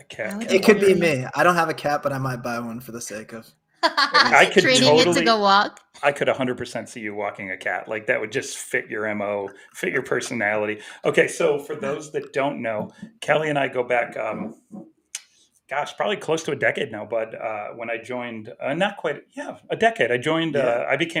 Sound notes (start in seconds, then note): 3.8 giggles